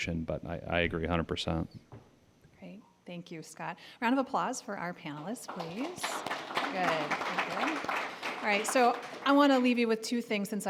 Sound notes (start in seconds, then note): 5.1 applause